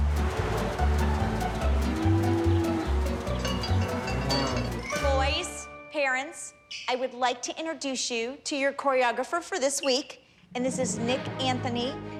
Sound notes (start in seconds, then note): 0.0 upbeat music; 3.4 mooing